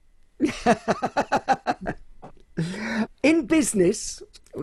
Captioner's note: laughs loudly